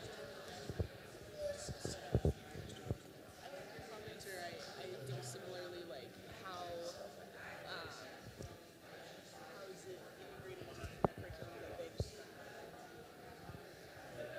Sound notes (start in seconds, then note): 3.4 indistinct chatter